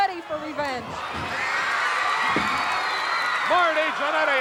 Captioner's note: audience cheering